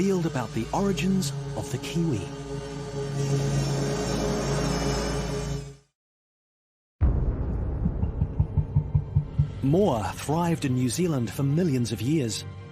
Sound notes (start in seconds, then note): 3.0 drill whirring